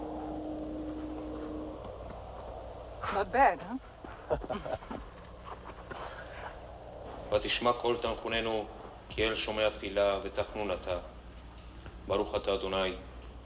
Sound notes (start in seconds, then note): 4.1 Ben-David laughs; 8.2 speaking Hebrew